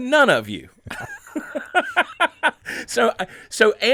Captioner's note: laughing